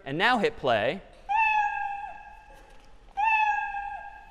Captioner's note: meowing